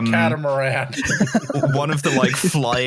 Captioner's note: laughs